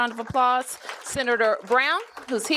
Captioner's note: applause